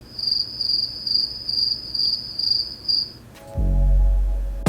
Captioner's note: cricket noises because obviously nothing is going on in my head at this moment